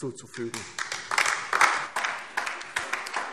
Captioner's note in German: Lebhafter Beifall DIE LINKE